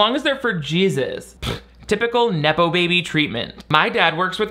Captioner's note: blows raspberry